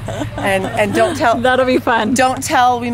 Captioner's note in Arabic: ضحكات خافتة من الكريستال